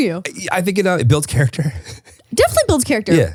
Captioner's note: chuckles